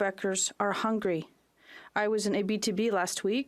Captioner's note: speaking French